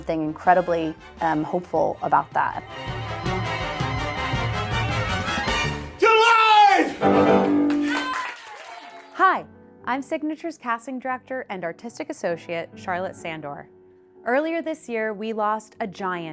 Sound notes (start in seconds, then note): 1.2 upbeat music; 6.5 people applauding and cheering